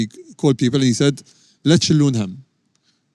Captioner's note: speaks in Arabic